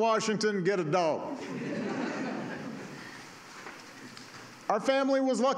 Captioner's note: laughter